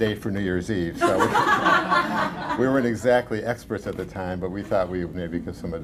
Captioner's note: laughter